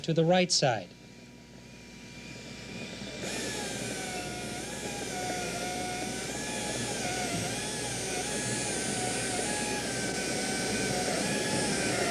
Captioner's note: buzzing sound